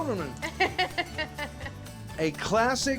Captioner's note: chuckling